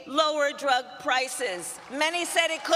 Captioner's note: applause